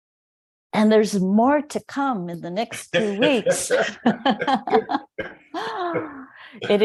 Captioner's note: laughs